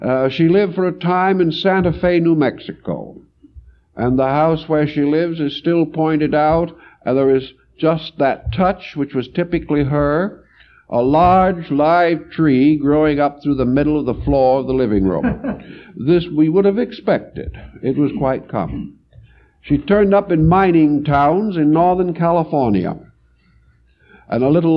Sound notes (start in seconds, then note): 15.0 laugh